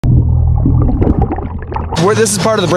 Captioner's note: water bubbling